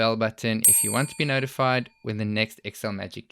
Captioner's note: bell dings